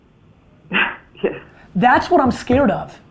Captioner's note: laughs